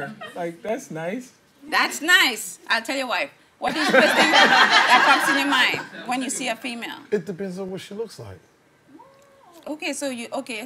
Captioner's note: laughing